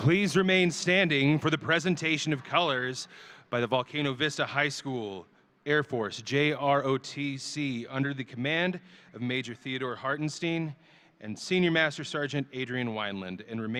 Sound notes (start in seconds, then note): none